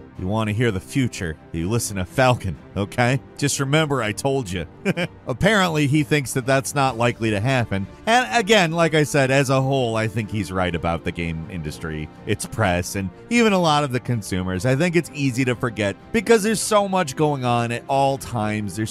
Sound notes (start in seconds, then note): 4.8 giggling